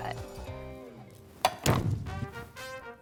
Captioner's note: echo; celebratory music